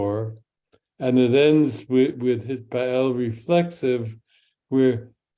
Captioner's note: speaks in Hebrew